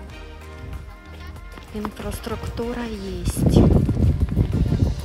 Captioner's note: normal voice